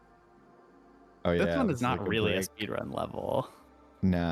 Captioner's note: chuckles